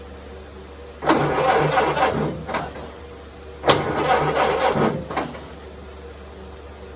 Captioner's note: engine cranking